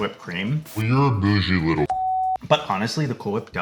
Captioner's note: beep